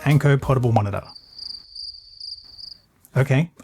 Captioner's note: crickets